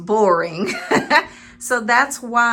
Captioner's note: laughing